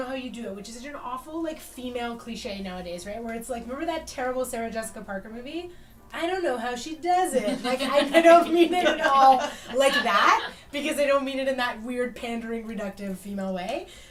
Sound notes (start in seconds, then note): 10.1 laughs